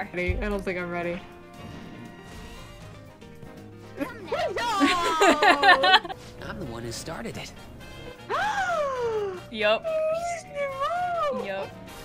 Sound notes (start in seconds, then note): 2.2 cartoony bus transformation noises; 4.0 laughing hysterically; 8.4 dramatic gasp